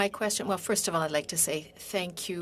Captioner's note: speaking in French